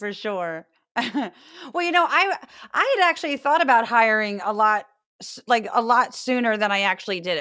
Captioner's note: laugh